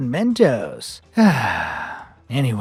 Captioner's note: sighs, exasperated